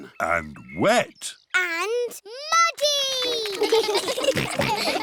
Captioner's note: children giggle